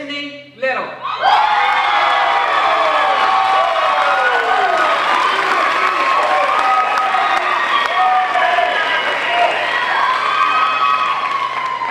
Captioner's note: crowd cheering